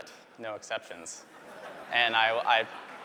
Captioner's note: laughter